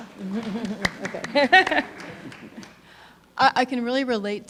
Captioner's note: laughing; audience applauding